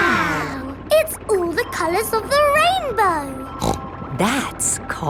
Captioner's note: snorts